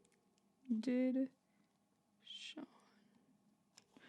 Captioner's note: whispers